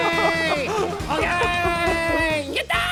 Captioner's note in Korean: 허탈한 웃음